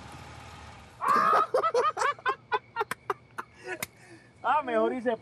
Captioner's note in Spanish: carcajadas